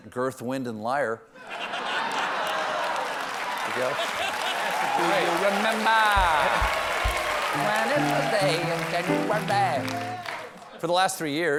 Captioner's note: laughter